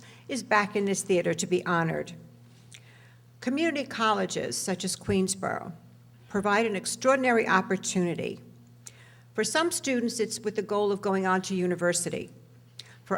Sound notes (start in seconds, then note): none